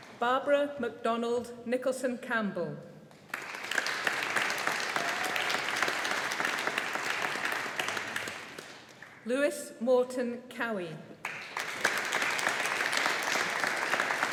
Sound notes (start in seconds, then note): 3.2 audience applauding; 11.2 audience applauding